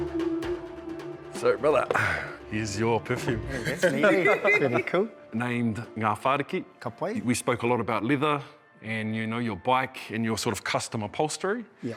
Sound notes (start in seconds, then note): 3.5 laughter